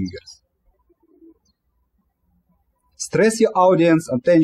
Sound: birds chirping

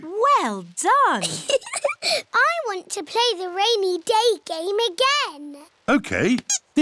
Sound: laughs

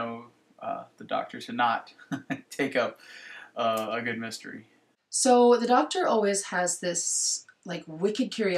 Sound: laughs

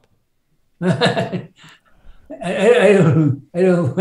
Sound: laughing

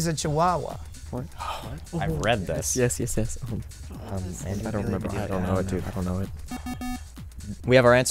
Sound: wispering

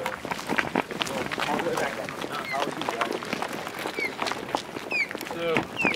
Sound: foot steps

